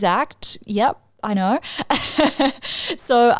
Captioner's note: laughs